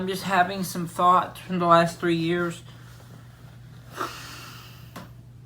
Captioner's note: suspira